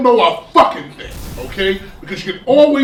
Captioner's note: crashing noise